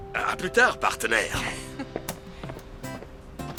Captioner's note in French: rires